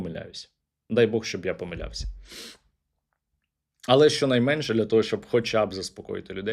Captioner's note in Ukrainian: сопіння